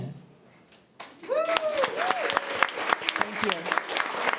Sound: applause

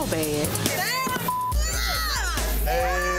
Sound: beep

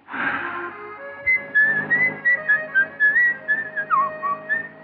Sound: whistling

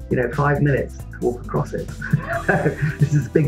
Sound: laughs

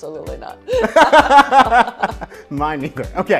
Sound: laughs

